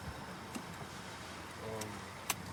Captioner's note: none